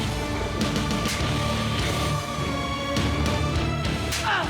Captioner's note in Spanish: cachetadas